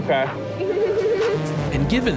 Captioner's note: giggles politely